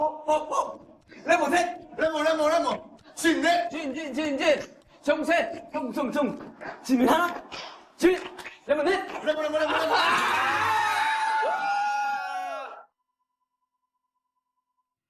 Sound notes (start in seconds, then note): 9.3 cheer